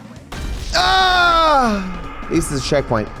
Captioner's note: screams